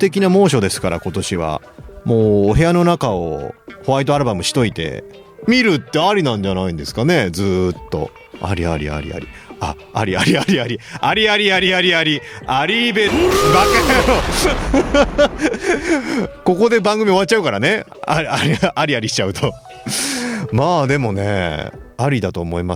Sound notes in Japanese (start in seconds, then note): 15.6 笑い